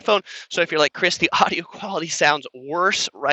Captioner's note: giggles